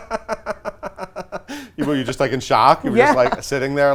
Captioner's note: laughs